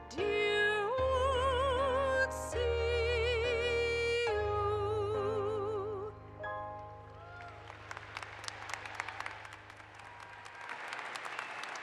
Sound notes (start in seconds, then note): 7.0 audience applauds